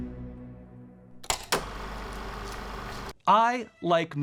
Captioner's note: film reel flapping